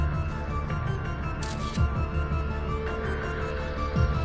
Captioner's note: scatti dell'otturatore della fotocamera